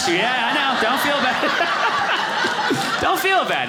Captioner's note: audience laughing